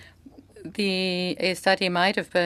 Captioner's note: speaking French